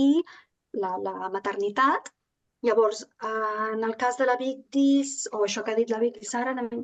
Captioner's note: continues speaking in Catalan